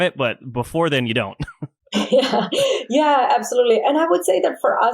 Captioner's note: laughs